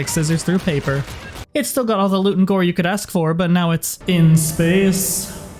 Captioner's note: reverb